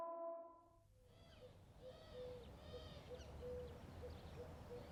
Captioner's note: birds chirping